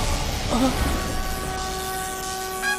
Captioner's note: sighs